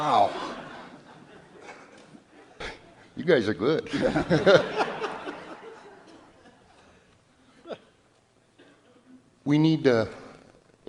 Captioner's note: audience laughter; laughs